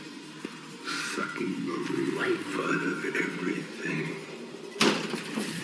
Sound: distorted

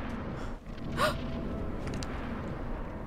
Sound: in game: ominous hum; gasps

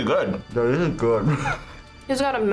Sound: laughs

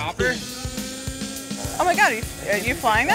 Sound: helicopter whirring

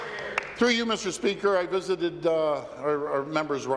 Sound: applause

